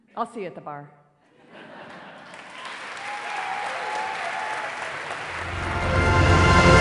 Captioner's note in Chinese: 掌聲